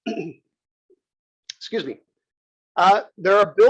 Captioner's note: cough